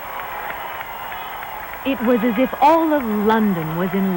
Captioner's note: crowd cheers and applauds